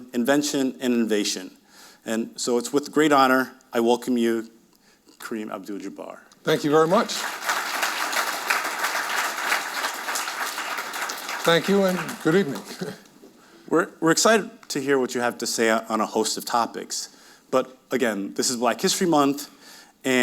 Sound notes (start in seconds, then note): 6.5 audience applauding; 11.1 chuckles